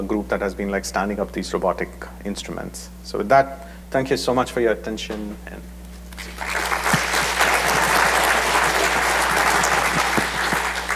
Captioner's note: applause